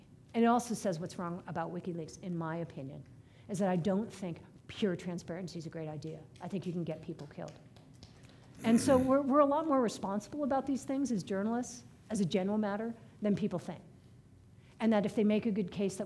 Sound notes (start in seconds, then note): 7.5 one person applauding